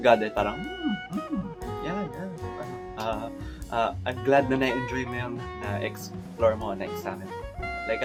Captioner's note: sounds of approval